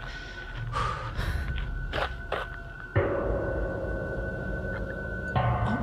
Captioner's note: gravel quietly crunching